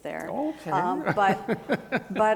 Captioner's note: laughs